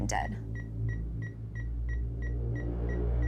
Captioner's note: beeping; ominous music